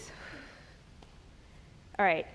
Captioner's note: exhales